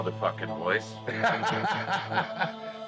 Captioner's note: laughs